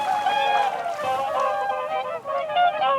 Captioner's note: honking